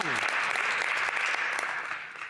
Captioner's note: some Applause